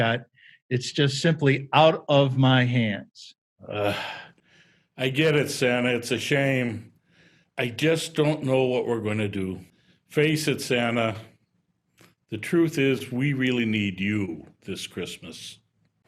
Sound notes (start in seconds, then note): 3.6 groan